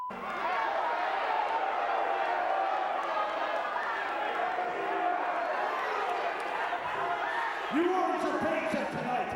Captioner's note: crowd cheering